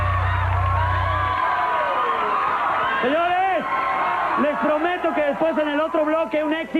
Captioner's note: applause